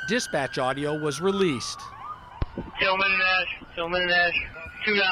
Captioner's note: siren